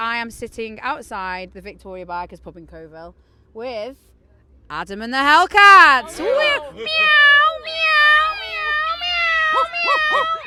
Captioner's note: lots of Meowing